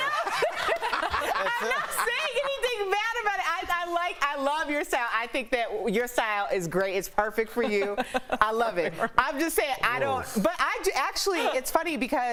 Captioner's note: laughter